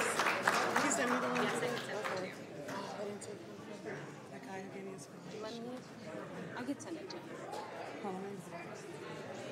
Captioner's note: applause